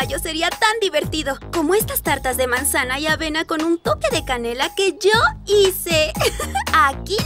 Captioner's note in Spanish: ríe